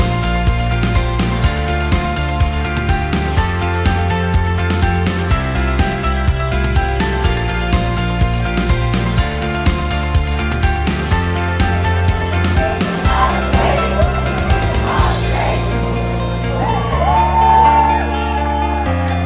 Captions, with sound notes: [Crowd chants] Our streets! [Crowd whoops and cheers]